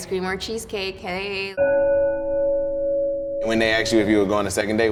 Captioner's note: clock chiming